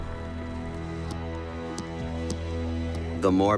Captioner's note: thudding